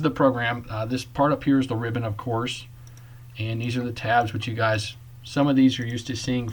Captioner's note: click